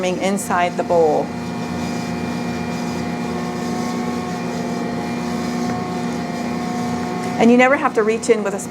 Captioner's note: quiet hum of mixer running